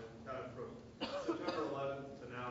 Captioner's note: cough